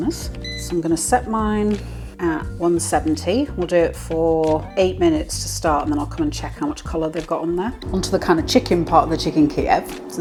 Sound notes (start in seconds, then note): none